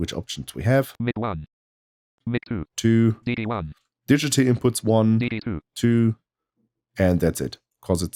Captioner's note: automated voice; automated voice